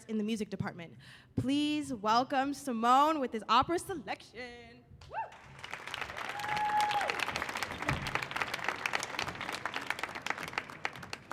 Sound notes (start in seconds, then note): 5.3 audience applauding